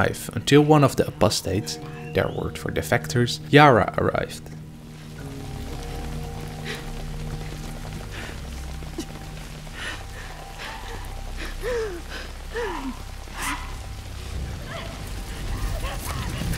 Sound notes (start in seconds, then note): 4.8 rain; 4.8 unnamed woman struggling for breath; 13.3 Yara screaming in the distance